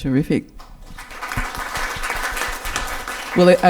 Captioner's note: audience applause can be heard